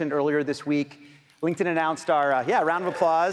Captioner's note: audience applauding